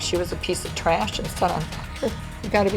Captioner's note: crying